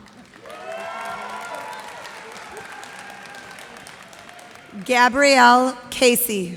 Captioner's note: cheers and applause